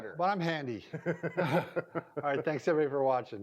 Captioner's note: chuckles